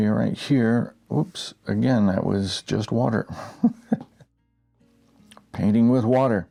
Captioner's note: laughing